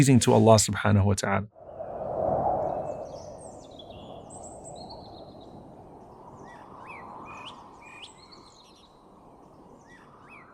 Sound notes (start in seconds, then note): 1.5 wind blowing; 2.7 birds chirping